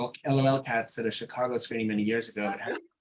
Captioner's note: chuckling